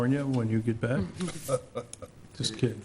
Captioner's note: laughing